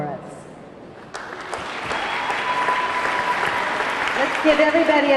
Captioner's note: audience clapping; audience cheering